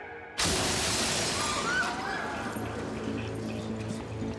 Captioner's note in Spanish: estruendo al caer; gritos